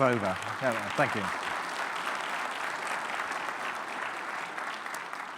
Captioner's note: audience clapping